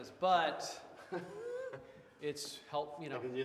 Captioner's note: Wes laughs